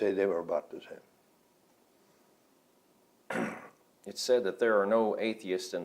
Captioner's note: clears throat